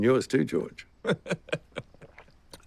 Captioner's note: laughing